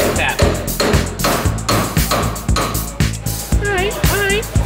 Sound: hammer hitting bolt

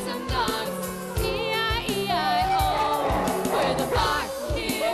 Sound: barking, howling

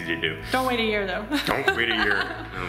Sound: laughing

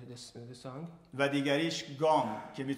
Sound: speaking in farsi

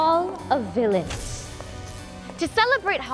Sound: electricity crackles

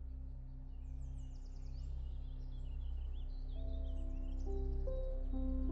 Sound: birds chirping

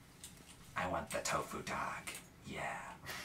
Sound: scratchy voice; laughs

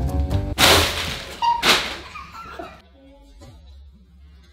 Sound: snake popping

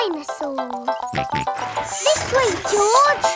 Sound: george snorts

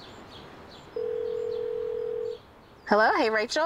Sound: phone ringing

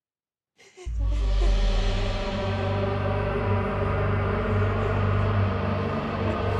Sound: dark foreboding music; Brigit sobbing

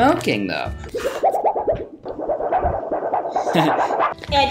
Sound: flexible metal flapping; laughing

